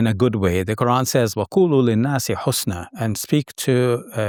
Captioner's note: speaks Arabic